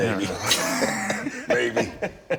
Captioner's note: Rick and Scott laughing